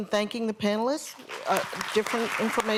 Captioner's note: applause